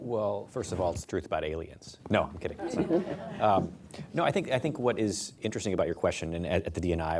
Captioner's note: laughter